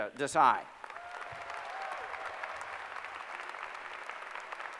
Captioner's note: applause